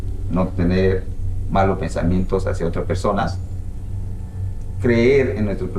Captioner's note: shaman speaks in foreign language